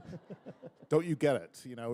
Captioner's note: laughter